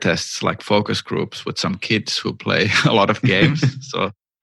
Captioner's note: laughter